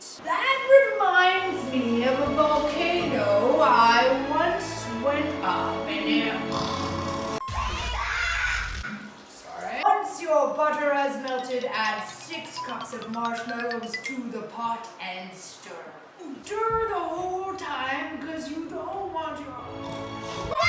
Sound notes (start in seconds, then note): 6.5 snoring; 20.0 snoring